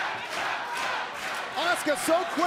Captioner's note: crowd cheering